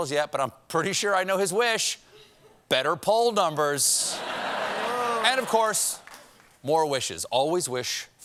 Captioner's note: laughter